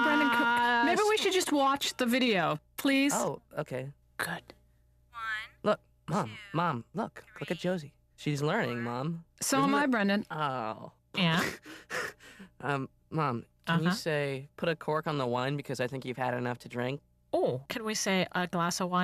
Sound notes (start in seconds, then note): 12.0 nasally; 17.9 nasally